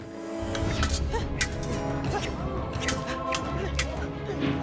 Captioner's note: swords whipping; dramatic music